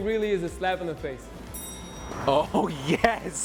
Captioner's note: bell dings